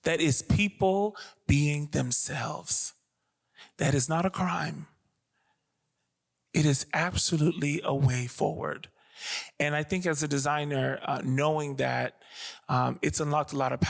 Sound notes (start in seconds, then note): none